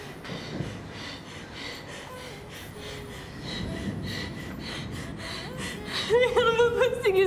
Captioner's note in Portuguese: valentina respirando tensa